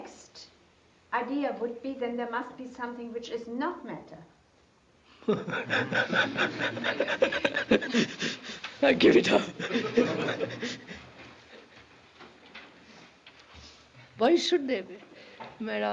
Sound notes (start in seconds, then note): 5.2 K laughs; 11.8 laughter